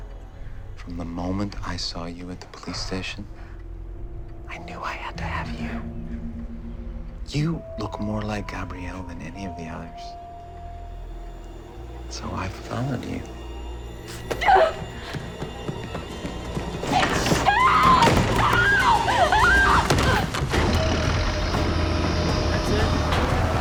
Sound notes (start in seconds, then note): 3.8 whispers; 13.0 gasps